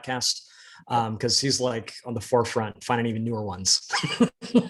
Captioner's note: both laughing